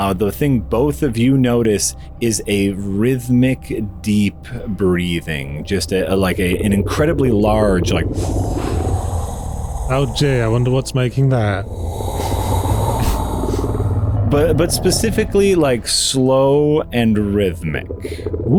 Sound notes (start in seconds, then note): 9.0 inhale; 11.3 exhale